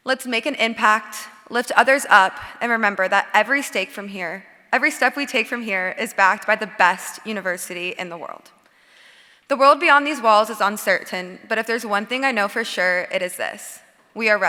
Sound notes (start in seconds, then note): none